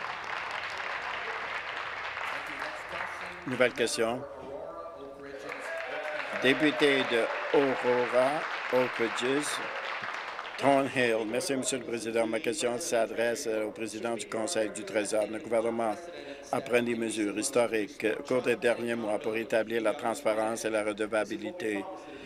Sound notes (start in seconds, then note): 1.6 applause; 10.3 applause